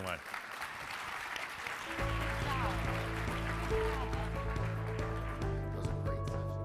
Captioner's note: crowd applauding; uplifting music